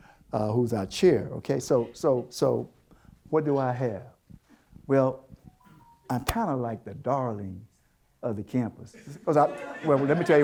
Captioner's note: audience Laughter